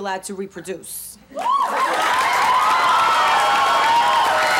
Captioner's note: cheering